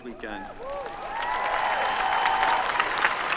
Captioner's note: applause